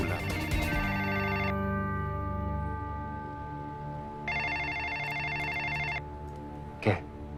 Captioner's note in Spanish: Suena el teléfono